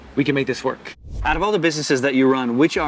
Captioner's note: air whooshing